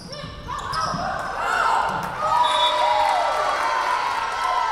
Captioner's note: whistle blowing